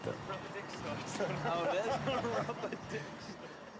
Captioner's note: indistinct chatter